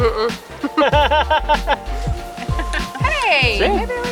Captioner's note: laughter